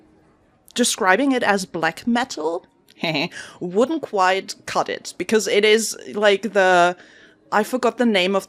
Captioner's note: haha